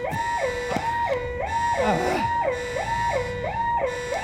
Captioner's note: blaring continues